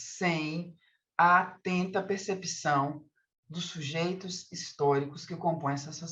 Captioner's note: continues speaking in Portuguese